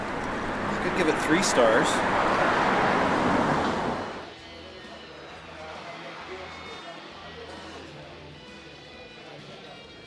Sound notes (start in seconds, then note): 4.8 bar sounds